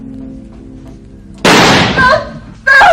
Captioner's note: explosion